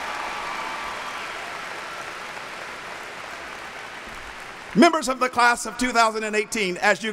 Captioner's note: applauding